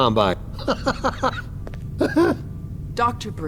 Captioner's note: laughter